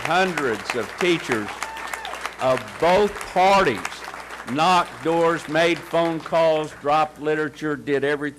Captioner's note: cheers and applause